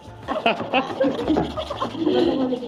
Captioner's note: laughs